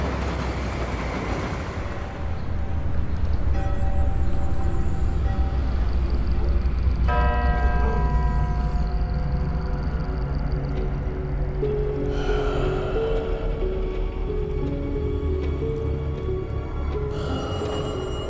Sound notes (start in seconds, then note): 7.0 bell tolls; 12.1 heavy exhale; 17.1 exhales